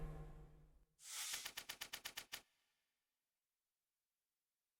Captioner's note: typewriter clicks